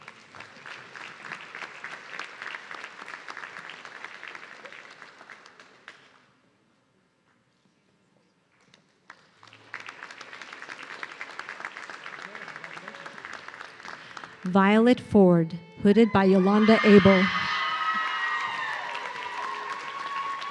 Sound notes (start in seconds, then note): 0.0 audience clapping; 9.0 audience clapping; 16.0 audience cheering